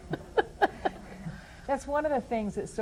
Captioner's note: laughter